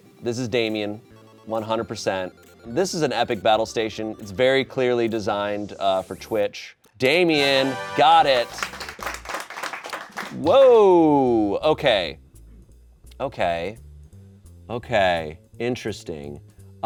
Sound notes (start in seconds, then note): 7.2 triumphant music; 8.2 audience applauding